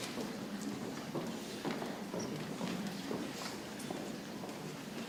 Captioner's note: people chattering softly